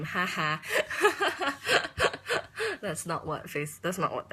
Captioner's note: laughing